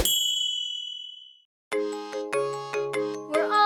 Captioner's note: ding